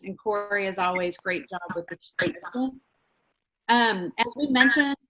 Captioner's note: speaks faintly; speaks faintly